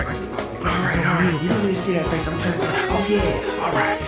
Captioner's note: unintelligible grunting